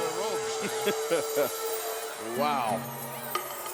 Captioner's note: laughs